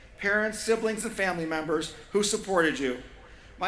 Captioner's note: none